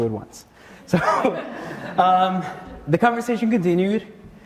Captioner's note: audience laughter; laughs